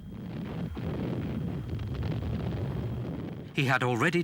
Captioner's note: explosions booming